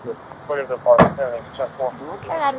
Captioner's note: radio chatter